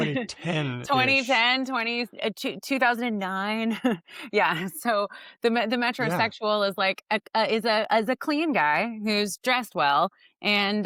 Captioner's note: chuckles